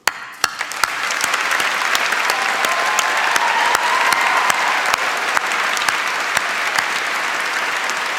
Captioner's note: applause and shouts